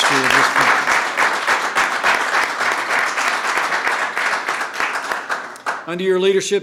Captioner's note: applause